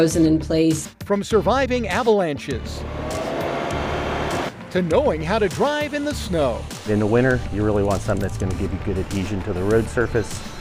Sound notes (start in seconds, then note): 2.5 engine roaring